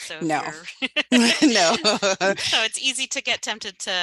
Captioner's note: laughs